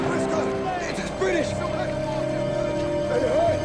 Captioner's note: british yelling